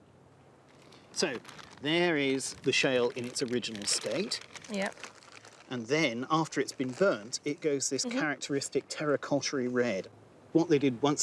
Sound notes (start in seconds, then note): 7.5 package rustles